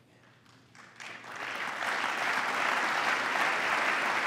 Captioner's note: applause